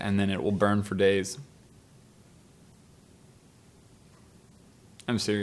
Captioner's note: very Awkward Silence